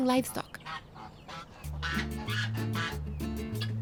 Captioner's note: bird squawking